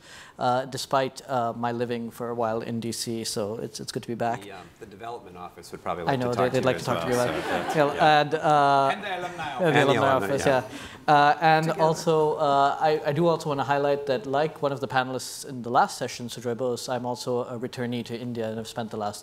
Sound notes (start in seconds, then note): 6.4 audience laughing; 12.0 chuckling